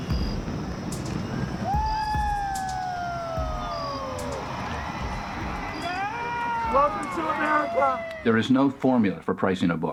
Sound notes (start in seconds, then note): 0.0 fireworks crackle and explode; 1.6 everyone cheers